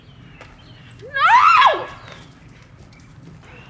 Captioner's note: shrieking